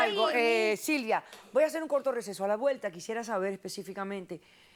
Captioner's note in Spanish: Hablan al unísono